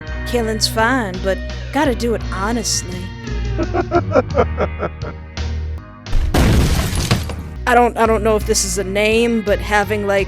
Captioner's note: sexy robot laugh